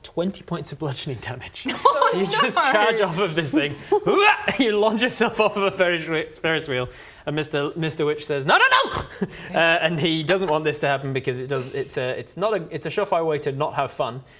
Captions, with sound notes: 20 points of bludgeoning damage oh no!! So you just charge off of this thing *hyargh!* you launch yourself off of the ferris wheel and Mr, Mr Witch says no no no and he doesn't want this to happen because it's uh it's not a, it's a sure-fire way to not have fun